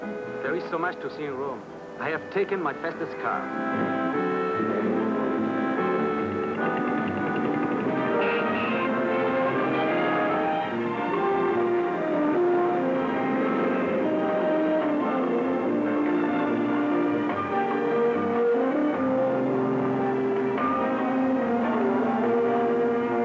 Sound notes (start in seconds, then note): 8.3 honks horn